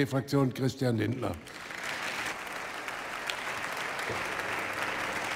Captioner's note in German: Beifall bei der FDP